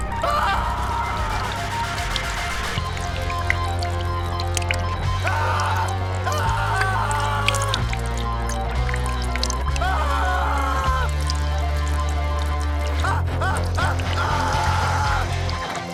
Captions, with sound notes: Ahhh! (dripping) Ahhh! Ahhh! Ahhh! Ah, ah, ah, ahhh!